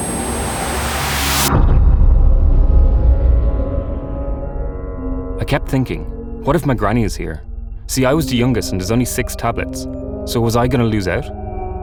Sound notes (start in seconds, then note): 0.0 high-pitched ringing; 2.5 ominous booming